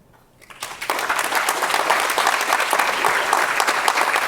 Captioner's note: audience clapping